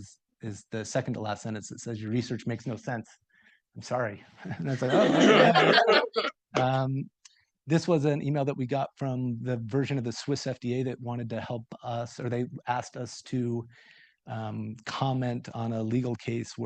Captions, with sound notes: And my favorite sentence is, is the second to last sentence that says, your research makes no sense, I'm sorry. (group laughing) And I was like, oh, this was an email that we got from the version of the Swiss FDA that wanted to help us. Or they asked us to comment on a legal case